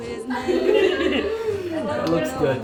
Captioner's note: chuckles